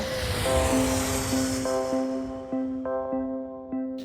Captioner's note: echoing whoosh